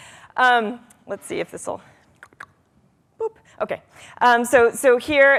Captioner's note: clicking tongue